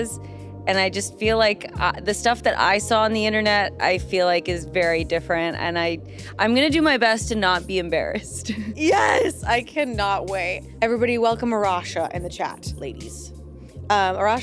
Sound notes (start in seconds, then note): 8.5 chuckles